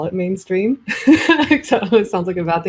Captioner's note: laughs